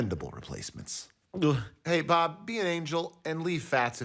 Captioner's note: gulps